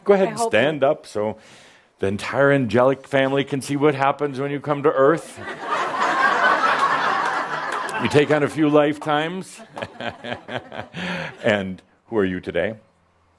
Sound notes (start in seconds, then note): 5.3 laughter; 9.7 chuckles